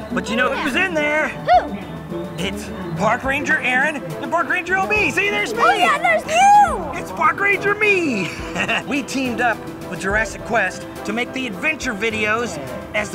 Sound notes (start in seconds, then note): 7.4 laughs